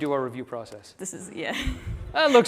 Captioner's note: laughter